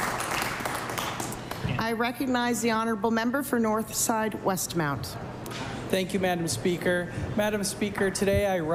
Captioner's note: applause